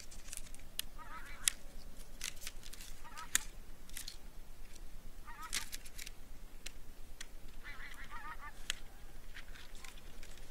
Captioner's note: tent poles sounds / Overflying ducks sound